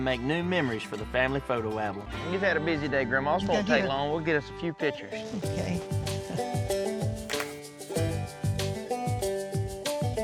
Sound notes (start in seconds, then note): 7.1 camera clicks